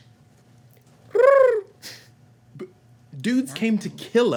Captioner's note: bird cooing